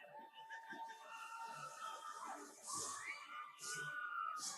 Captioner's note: audience cheers continue